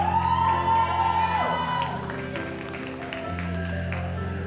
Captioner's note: audience applauds